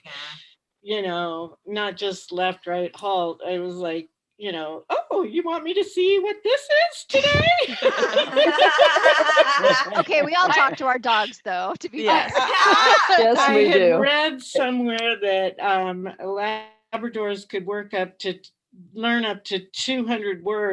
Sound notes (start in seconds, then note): 7.5 laughter